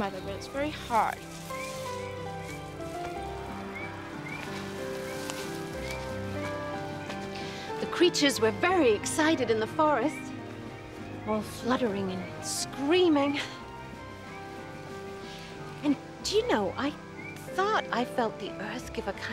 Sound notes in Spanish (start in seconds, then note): none